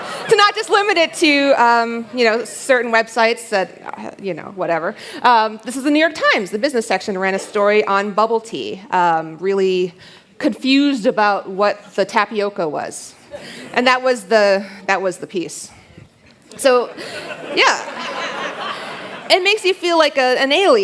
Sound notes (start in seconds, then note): 16.8 laughter